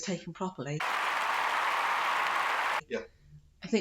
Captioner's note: applause